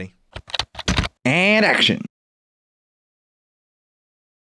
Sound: typing Sound

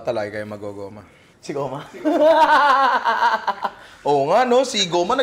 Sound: laughs

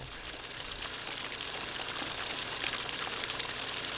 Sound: water running

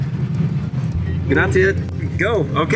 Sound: speaking in foreign language

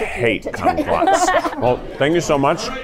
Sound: laugher

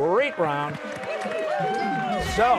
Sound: cheers and applause

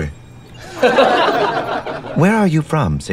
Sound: laughter

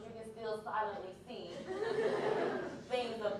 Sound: laughter

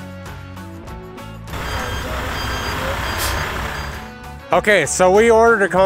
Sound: truck signaling

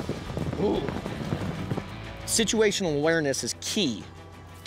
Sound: hoofbeats

